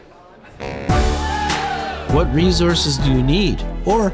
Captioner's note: students cheering